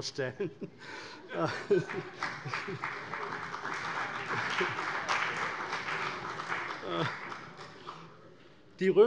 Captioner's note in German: Heiterkeit und Beifall bei der CDU und der FDP